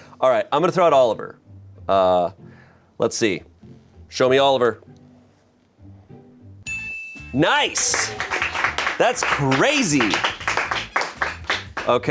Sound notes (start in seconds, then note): 6.7 bell chimes; 9.4 crew applauds